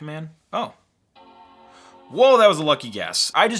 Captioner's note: computer startup sound